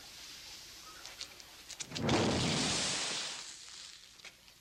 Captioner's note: liquid thundering